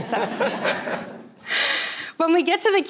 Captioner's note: all chuckles